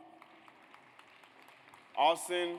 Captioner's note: audience applauds